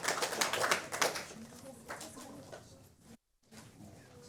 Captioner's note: applause